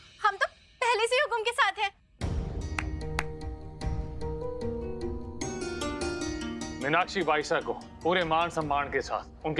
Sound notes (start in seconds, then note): 3.1 clapping